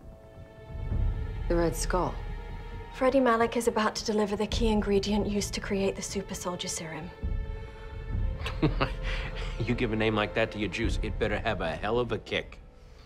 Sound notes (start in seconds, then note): 8.4 chuckles